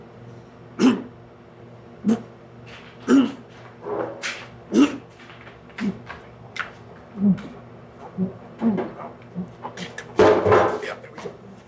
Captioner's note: coughing and choking